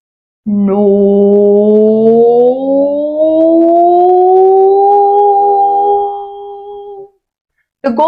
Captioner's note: vocal glide